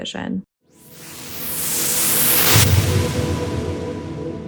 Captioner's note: whooshing